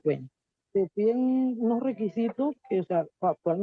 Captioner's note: speaking in a non-english language